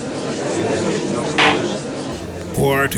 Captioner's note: gavel slams!